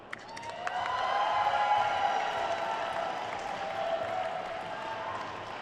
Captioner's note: attendees cheering and applauding